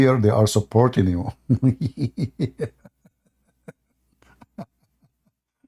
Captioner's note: Ketawa